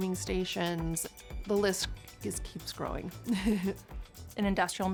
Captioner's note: chuckles